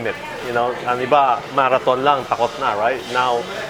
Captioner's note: speaking in foreign language